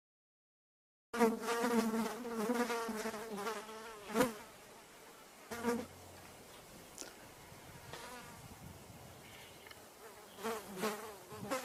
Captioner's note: kärbsed sumisevad/Flies buzzing